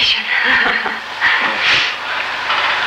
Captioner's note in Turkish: Gülüyor